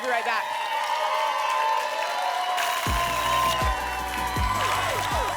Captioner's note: applause and cheering cont